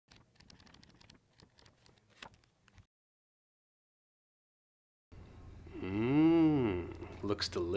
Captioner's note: hmmmm